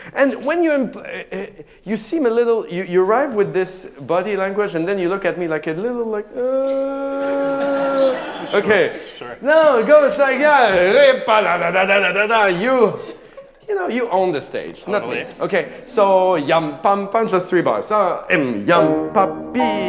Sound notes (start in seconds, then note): 6.3 moaning; 11.3 singing; 16.4 singing